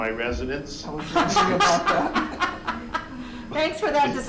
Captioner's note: meeting members laughing